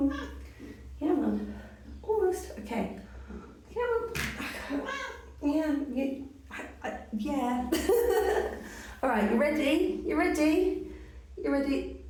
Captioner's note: meow; meow; laughing